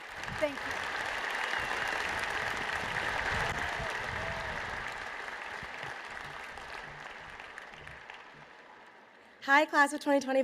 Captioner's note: applause